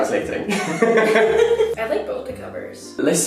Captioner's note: both laughing